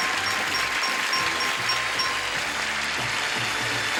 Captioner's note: audience applauds